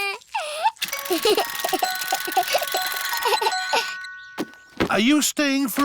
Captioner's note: alexander giggles